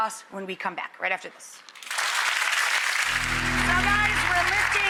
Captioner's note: audience applauds